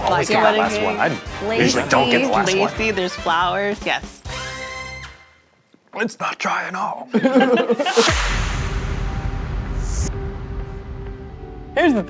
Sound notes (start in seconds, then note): 6.0 in a Hoarse Voice; 7.1 all chuckling; 8.2 suspenseful music